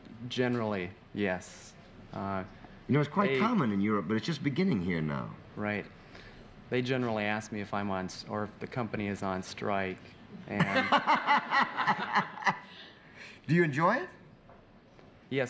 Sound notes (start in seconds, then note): 10.5 laughter